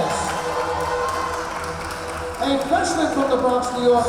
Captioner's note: cheering; clapping